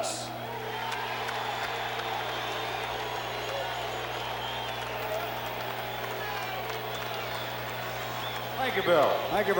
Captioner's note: applause